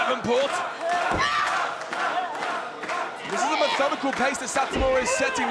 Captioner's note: applause